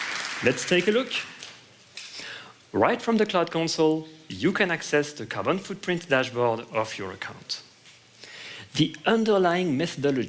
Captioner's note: applause